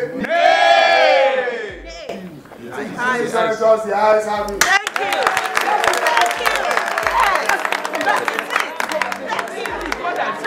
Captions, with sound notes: Ney. Distinguished senators, the I’s have it. [Applause]